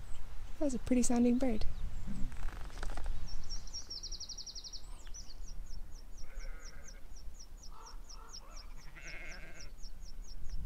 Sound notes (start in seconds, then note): 3.4 pretty sounding bird; 8.4 sheep bleating